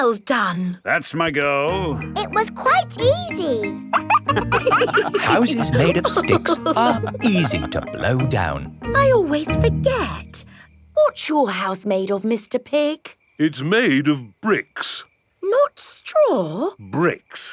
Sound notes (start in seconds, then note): 3.8 wolves laughing